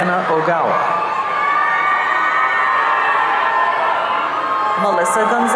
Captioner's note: audience cheering